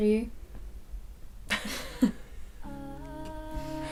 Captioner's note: laughter